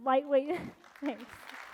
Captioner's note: applause